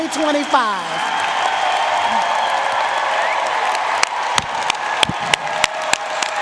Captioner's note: audience cheering and applauding